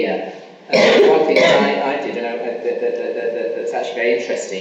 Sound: coughing masks speaker

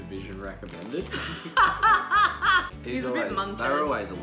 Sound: laughing

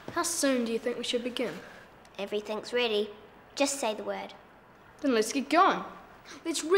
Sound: none

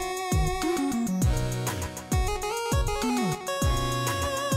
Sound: none

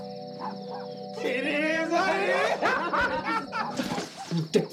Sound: laughing

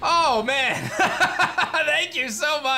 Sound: laughs

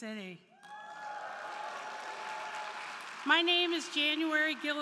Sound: crowd cheering; crowd clapping

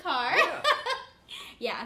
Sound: laughing

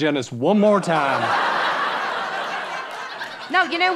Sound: audience laughing

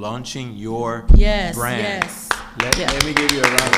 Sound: all clapping

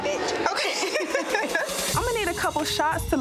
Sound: giggling

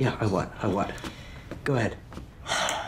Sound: sighs heavily

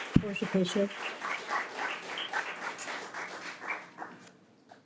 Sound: audience applause

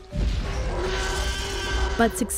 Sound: dinosaur roaring

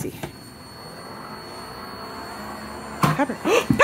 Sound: machine whirs

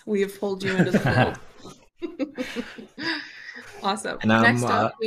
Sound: laughter

